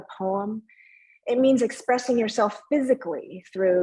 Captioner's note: speaking in foreign language